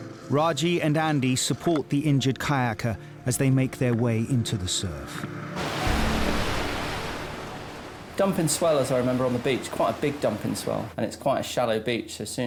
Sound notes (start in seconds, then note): 5.5 waves crashing